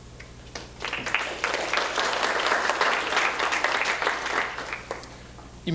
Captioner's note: applause